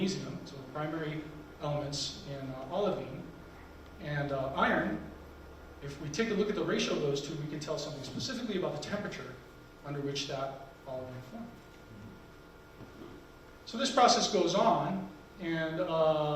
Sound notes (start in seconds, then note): none